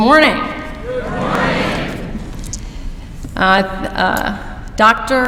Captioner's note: louder